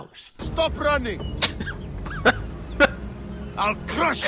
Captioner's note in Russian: смеется